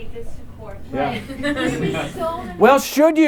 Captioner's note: laughter